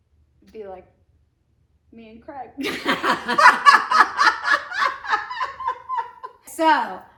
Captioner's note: laughing